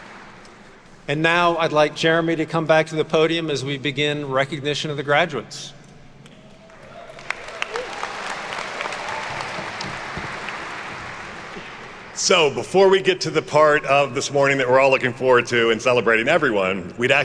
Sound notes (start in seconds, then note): 6.4 attendees cheer and clap